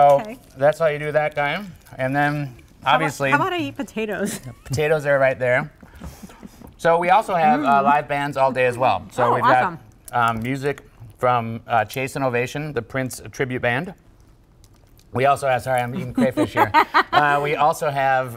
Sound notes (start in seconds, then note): 6.1 laughter